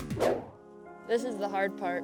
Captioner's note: air whooshes